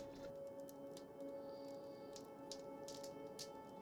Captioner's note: speaks in Mi'kmaw